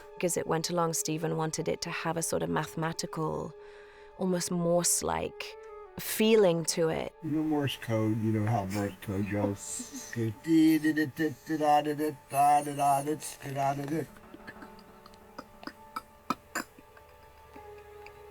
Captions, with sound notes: As it went along, Steven wanted it to have a sort of mathematical, almost Morse-like feeling to it. You know Morse code? You know how Morse code goes? [imitating beeping] [clicking]